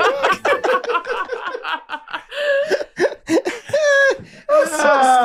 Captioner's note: group laughing